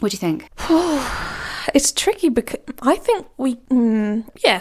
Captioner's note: sighs